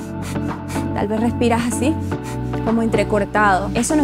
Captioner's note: stressful breathing